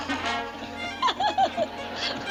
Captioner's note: giggles